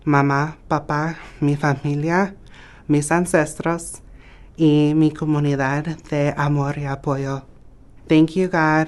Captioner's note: speaking in native language